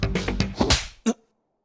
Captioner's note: loud slap